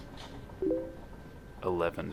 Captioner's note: Facebook message sound